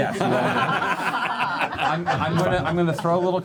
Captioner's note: laughter